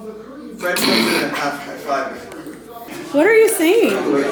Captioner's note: laughs